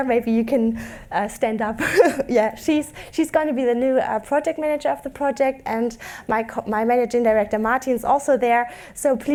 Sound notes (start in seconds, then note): 1.8 laughs